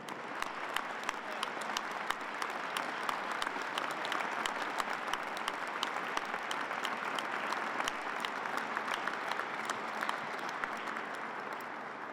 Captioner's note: applause